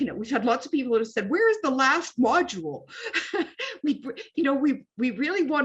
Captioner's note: laughs